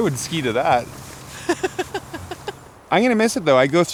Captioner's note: laughs